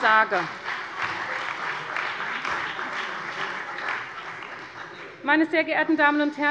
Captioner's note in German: Beifall bei der CDU, dem BÜNDNIS 90/DIE GRÜNEN und der FDP